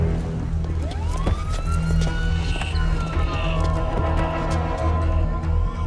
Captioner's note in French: Sirènes lointaines